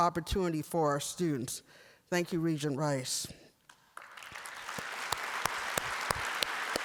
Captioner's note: applause